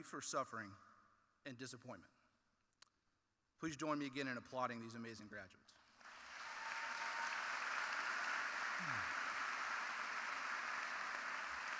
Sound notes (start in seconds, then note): 6.0 audience applauding